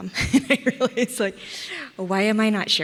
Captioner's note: laughs